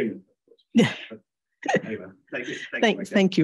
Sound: laughs

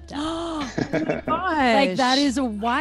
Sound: laugh

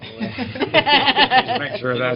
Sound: laughter

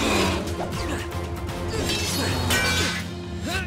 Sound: grunting

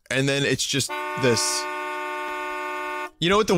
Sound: car horn honks

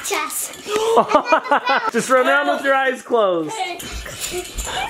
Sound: laughs

